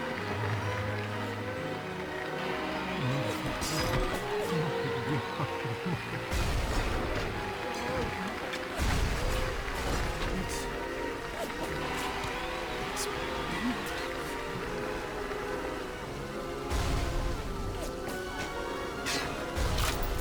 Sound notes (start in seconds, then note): 0.2 dramatic music; 4.9 laughing; 7.6 dramatic music; 16.8 dramatic music